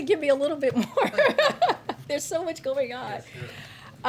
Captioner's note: laughs